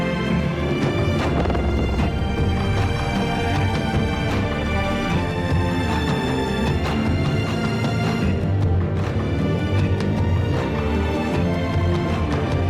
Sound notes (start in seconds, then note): 0.8 explosion booming; 1.8 upbeat music continues